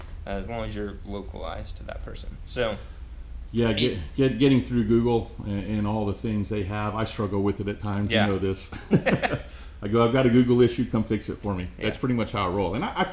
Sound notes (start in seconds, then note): 8.6 laughs